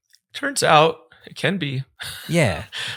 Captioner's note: laughs